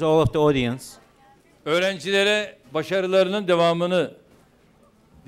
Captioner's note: non-english speech